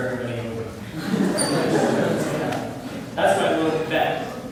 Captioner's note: laughter